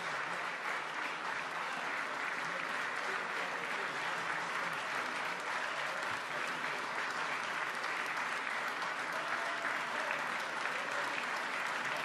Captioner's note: applause